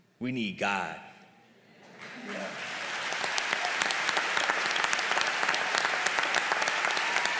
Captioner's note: applause